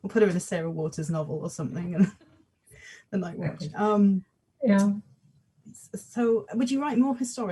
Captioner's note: laughs